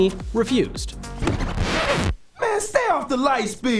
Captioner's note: record scratching